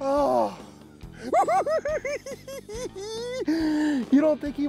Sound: cackles

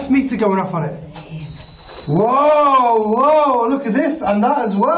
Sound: tone screeching

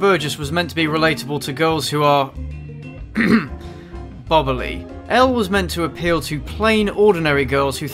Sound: coughs

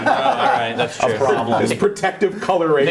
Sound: laughing

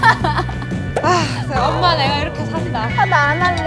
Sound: sigh

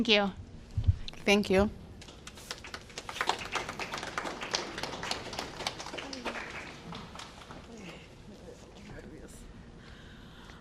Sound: applause

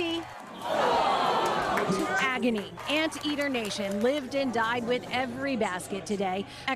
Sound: cheers and applause

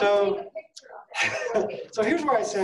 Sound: laughing

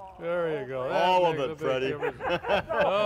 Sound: laughing

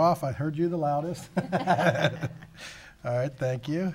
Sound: laughing

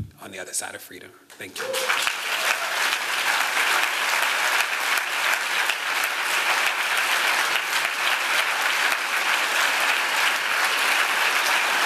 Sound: applause

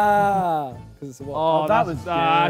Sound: Simon laughs

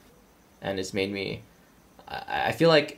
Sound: laughing

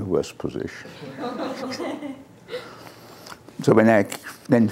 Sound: laughter

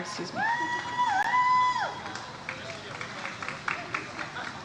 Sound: audience applauds

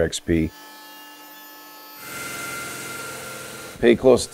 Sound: saw grinding

